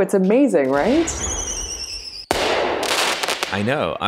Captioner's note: fireworks